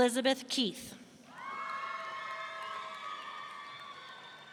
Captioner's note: audience cheering